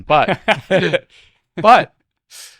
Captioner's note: both laughing